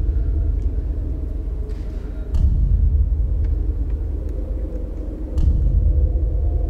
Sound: tense pounding; wind howling

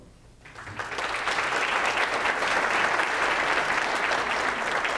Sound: audience applauds

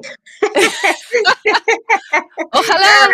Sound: laughing

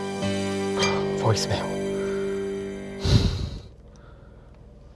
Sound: sighs

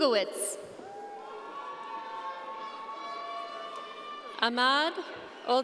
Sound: audience cheering

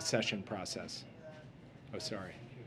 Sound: audio playback of press briefing interrupts

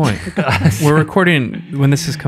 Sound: all laugh

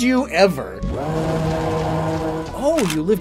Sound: roar

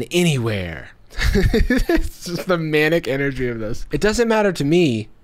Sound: laughs

